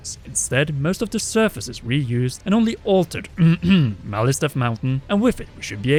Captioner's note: clearsa throat